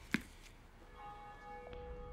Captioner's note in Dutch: kerkklok luidt